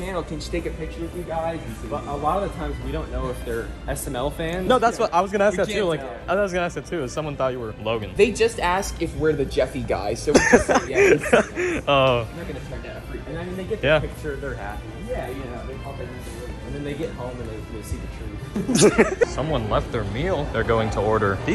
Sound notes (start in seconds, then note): 18.5 laughs